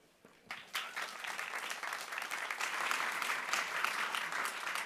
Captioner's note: audience applauding